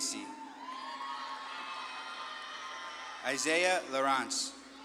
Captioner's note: audience claps and cheers